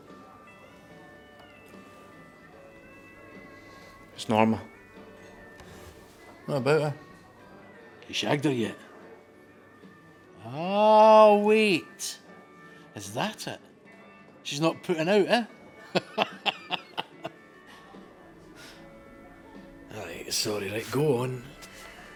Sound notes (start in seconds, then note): 0.1 country music; 15.8 laughing